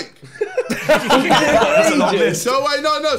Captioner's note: laughing